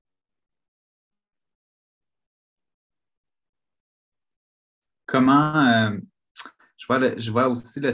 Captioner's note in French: silence